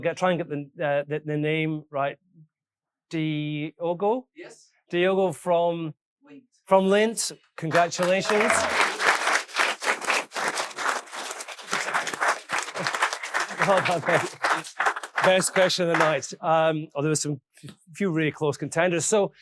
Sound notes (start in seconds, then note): 7.6 all applauding